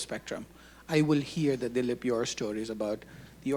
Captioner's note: speaking Hindi